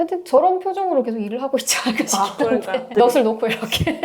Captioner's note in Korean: 웃음